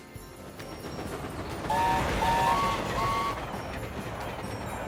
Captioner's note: mighty mac whistles